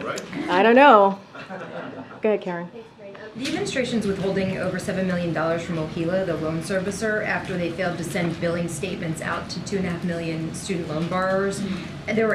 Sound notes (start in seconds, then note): 1.3 laughter